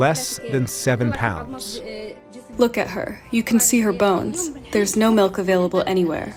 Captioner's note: through translator